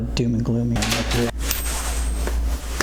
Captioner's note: crinkled paper